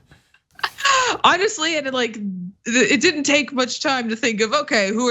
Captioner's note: laugh